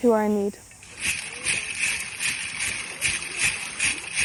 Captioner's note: bells creaking